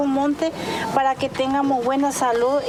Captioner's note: speaking In Foreign Language